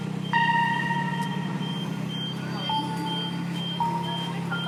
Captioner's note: distant chattering